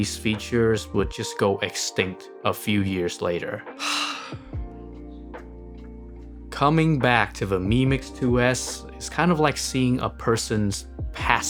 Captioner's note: sigh